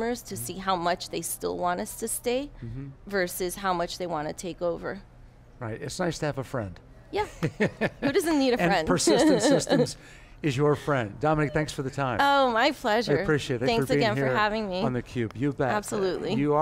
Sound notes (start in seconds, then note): 8.6 laughs